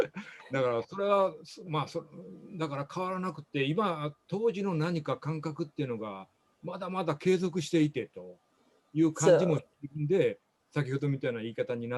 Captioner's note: speaking japanese